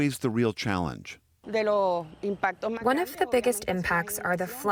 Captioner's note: through translator